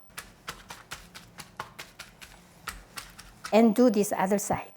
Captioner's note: palm patting